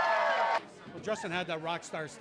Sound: cheers and Applause

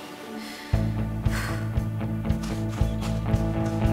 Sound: Joss takes a deep breath

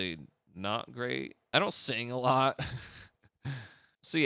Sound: laughs

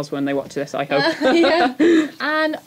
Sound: laughs

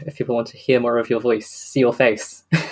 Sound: laughs

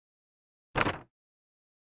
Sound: paper wobbles uncontrollably

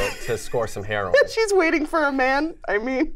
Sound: laughs

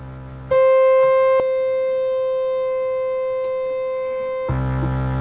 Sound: interminable oscillator shrieking

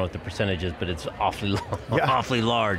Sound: laughs

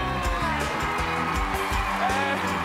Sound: audience cheers

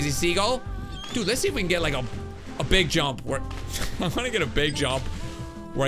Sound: laughs

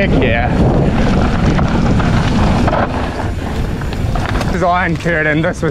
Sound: bike clatters

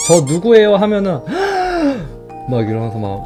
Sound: gasps

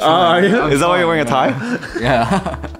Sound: both laugh

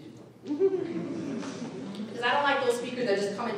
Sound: audience laughing

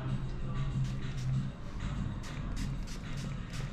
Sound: spray misting

